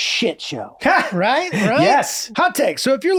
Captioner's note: Glenn chuckles